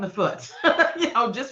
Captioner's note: laughing